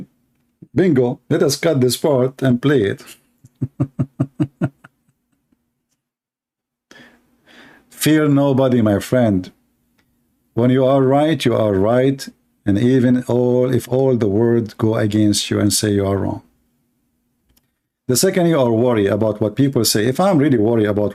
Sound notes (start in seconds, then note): 3.4 Ketawa